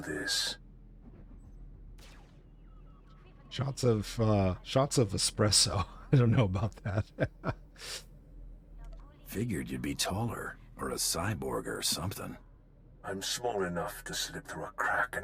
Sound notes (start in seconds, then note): 5.6 laughter